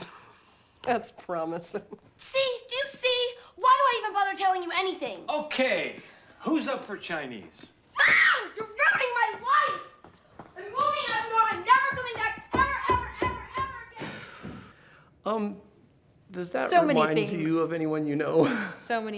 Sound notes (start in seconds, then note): 0.3 laughs; 7.9 screams